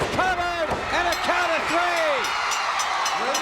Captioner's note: bell rings; audience cheering